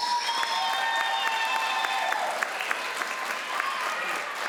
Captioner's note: crowd applauds